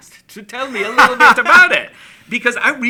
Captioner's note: laughs